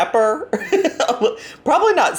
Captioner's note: laughs